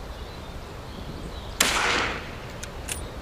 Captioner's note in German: Schuss